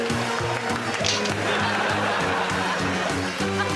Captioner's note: click